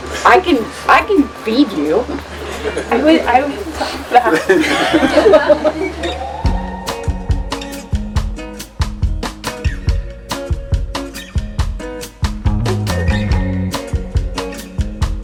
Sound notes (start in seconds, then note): 5.0 participants laughing; 6.4 upbeat guitar music